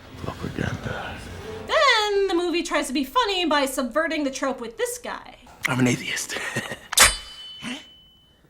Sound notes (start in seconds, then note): 1.6 voiceover; 6.2 laughs; 6.9 gasps; 6.9 knife pops out